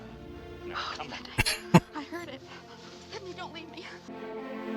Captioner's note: chuckling